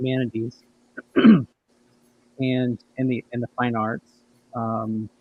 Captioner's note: clears throat